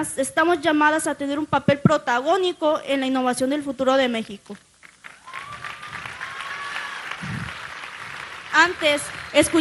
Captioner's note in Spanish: aplausos